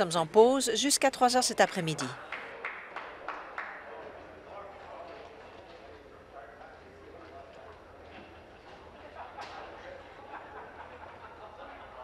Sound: applause

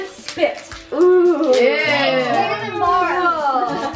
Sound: chorus of ooh's

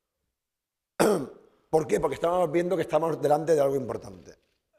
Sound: speaking spanish

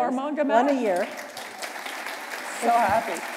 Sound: applause

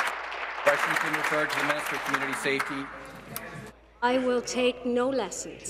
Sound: applause

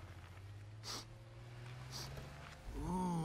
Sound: sniffling

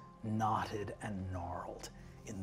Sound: none

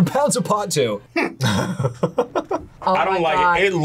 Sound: laughs

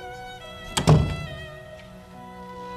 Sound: door closing

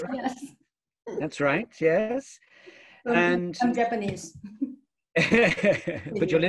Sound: both laughing

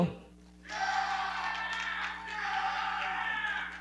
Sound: audience cheering and clapping

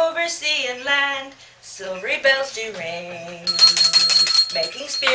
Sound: bell ringing

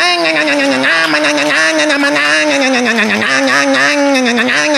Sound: motorcycle reving noise

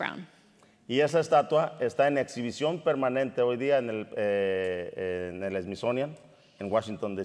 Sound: speaking in Spanish

